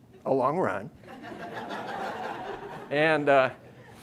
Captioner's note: audience laughing